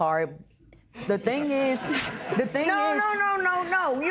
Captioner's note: laughter